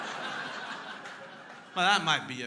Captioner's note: crowd laughing